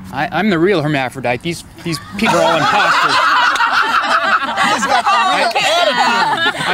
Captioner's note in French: rires